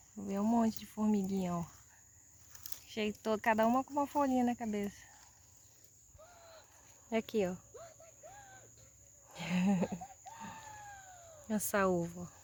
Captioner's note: laughs